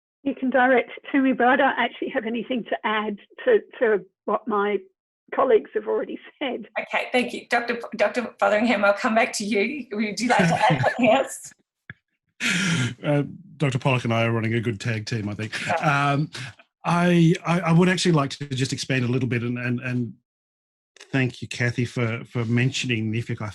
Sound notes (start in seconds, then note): 10.2 laughs